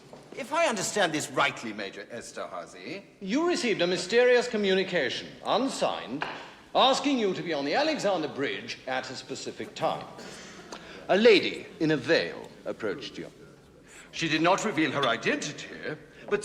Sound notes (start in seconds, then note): none